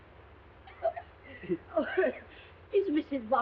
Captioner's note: Mrs. Hudson coughing